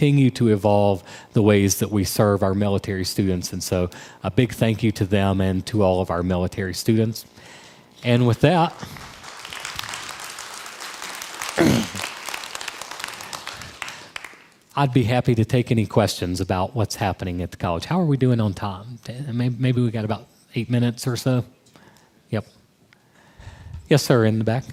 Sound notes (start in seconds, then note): 8.6 crowd applause